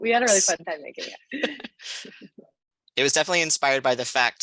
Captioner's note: laughter